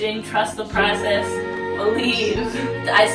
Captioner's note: laughs at herself